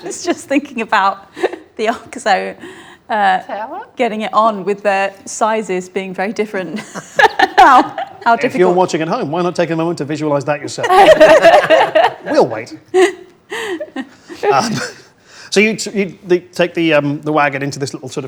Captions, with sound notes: I was just thinking about the oxo getting it on with their sizes being very different. - How different- - Hey, if you're watching at home, why not take a moment to visualize that yourself? (group laughs) We'll wait. So you take the wagon into this little sort